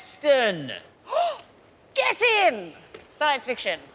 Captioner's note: gasps